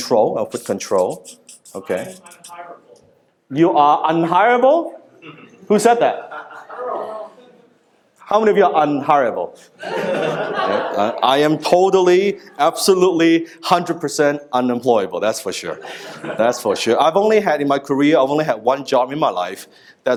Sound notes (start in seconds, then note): 9.8 laughing